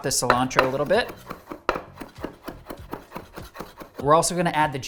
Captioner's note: knife chopping